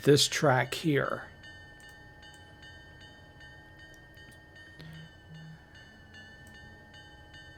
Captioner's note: train whistle